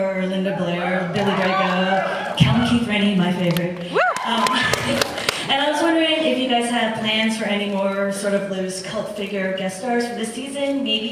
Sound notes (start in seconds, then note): 0.6 cheers; 3.8 cheers; 4.6 laughs